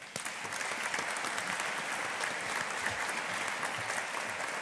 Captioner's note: audience applauding